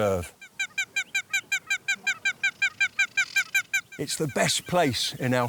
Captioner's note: bird calls